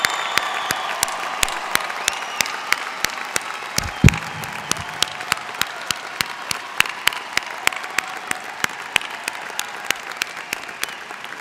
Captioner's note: cheers and applause